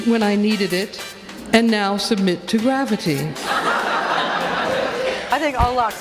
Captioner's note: laughter